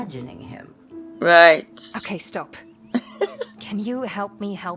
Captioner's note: chuckles